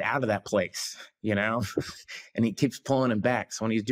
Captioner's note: chuckles